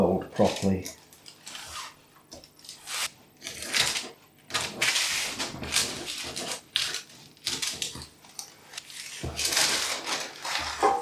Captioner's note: paper cutting sounds and crinkles